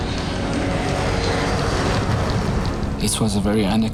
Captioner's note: jet engine screeching